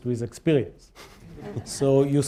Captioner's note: laughter